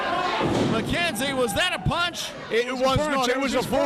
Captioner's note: loud thump